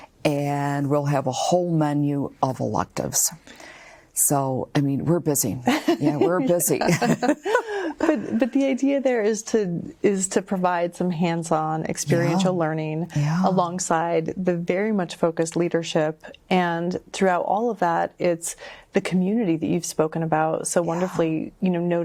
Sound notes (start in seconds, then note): 5.6 laughing; 6.7 laughs